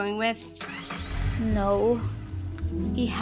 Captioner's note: engine starting up